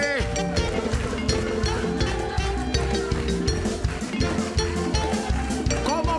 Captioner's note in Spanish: Aplausos